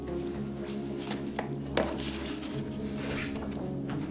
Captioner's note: footsteps